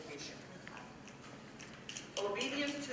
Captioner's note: snapping